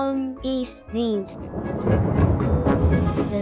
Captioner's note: thunder